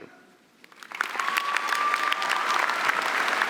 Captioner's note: applause